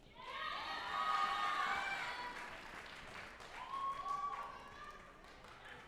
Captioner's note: group applauding and cheering